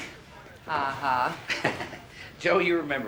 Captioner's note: chuckles